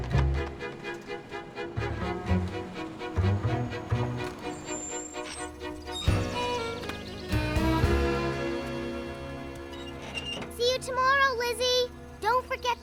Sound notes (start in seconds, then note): 1.0 horn honking